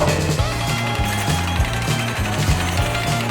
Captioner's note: roller coaster noises